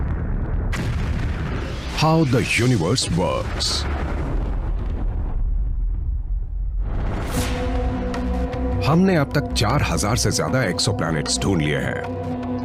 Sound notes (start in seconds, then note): 0.0 explosion blasts